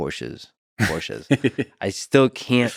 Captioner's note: Tim laughs